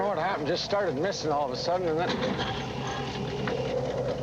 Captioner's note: <i> engine coughs</i>